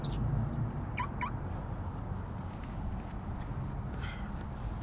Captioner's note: car beeping